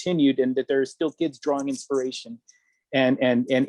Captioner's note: none